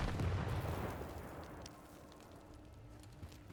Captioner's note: gunfire